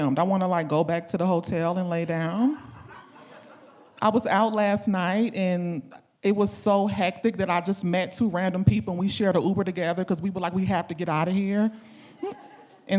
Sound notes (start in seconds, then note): 2.5 audience laughing